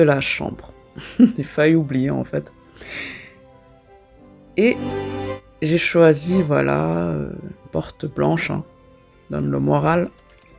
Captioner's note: laughs